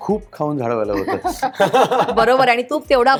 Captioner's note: chuckles